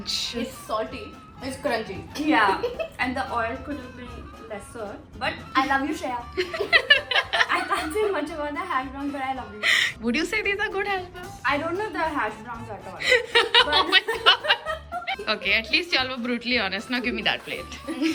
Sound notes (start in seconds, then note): 6.3 laugh; 13.0 laughing